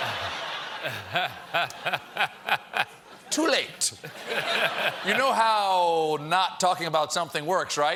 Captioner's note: laughter